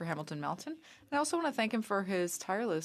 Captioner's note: speaking french